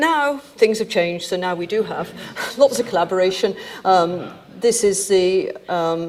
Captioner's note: audience chuckling